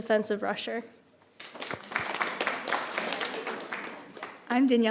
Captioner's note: audience applauding